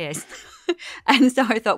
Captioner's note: laughter